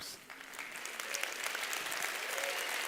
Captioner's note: applause